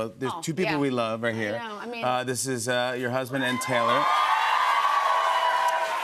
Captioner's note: cheers and applause